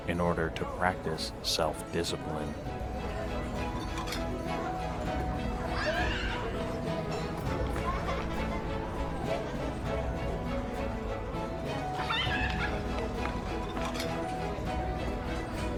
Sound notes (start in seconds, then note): 3.4 upbeat music; 5.7 child screams; 7.8 child laughs; 11.9 child laughs